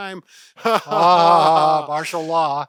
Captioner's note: laughs